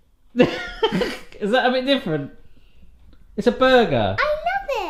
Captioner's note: laughing